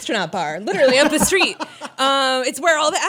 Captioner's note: laughter